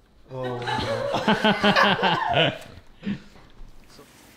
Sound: all laughing

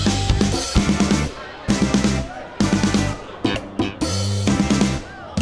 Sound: chatter in the background

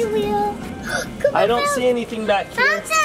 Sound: shocked noise

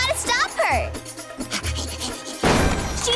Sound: panting

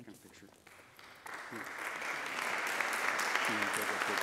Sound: applauding

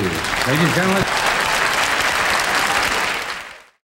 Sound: audience applauds

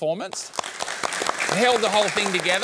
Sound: applause

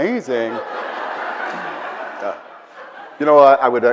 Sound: audience laughs

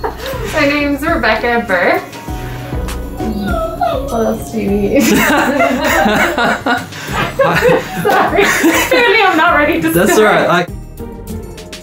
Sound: laughing

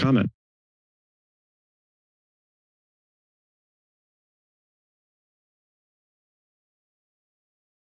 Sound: silence

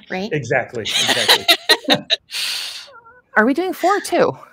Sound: all laughing

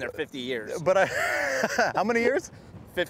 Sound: laughs

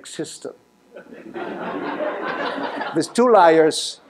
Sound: laughter

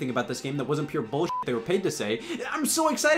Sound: beep

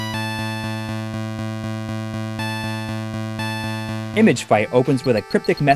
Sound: game audio

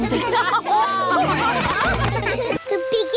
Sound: laughter

